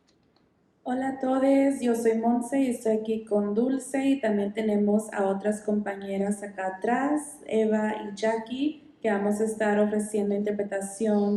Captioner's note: speaking in Spanish